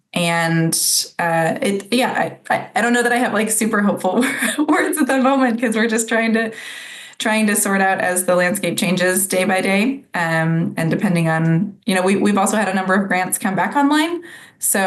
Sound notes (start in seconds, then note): 4.0 laughs